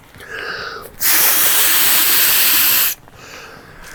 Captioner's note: blows air